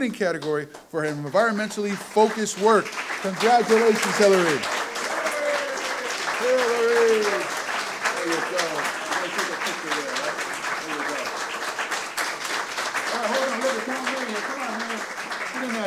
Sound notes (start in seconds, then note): 5.7 audience cheers and applause; 14.3 talking off microphone